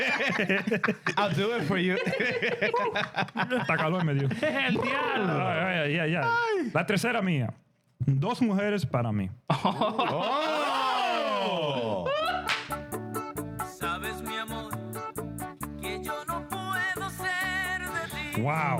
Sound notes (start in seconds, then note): 4.4 laughter; 4.7 speaking Spanish